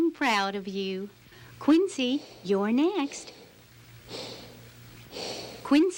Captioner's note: snoring